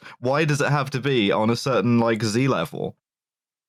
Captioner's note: none